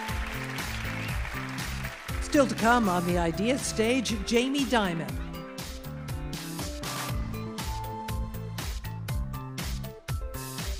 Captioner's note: applause